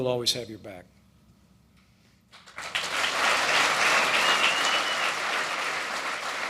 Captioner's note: applause